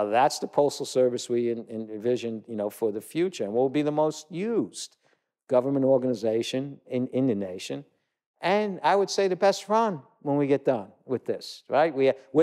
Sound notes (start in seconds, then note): none